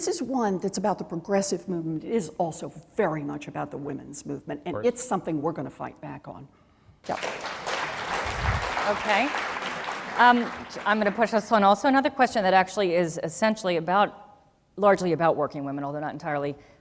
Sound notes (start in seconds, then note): 7.0 applause